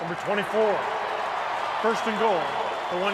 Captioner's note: cheering